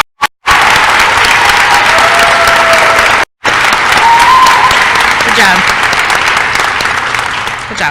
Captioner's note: applause